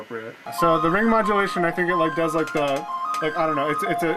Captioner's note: stammering